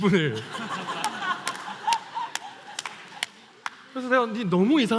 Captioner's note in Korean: 웃음